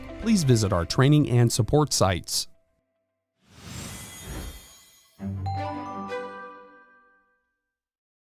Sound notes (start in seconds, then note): 3.4 logo swooshes; 5.1 logo chimes